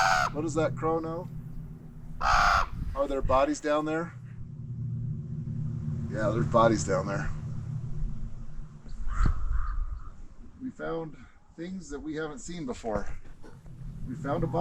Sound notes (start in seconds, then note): 8.8 crow sounds